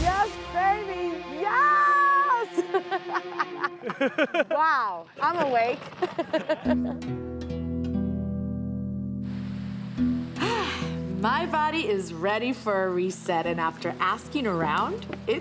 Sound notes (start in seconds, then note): 2.4 laughs; 6.9 slow guitar music; 9.5 rain patters